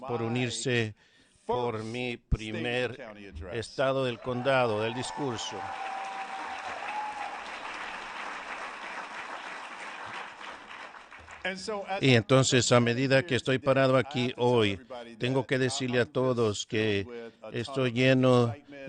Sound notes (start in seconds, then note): 7.8 applause